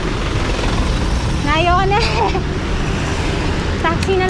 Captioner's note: laughs